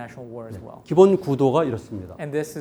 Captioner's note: speaking in Korean